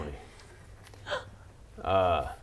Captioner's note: gasp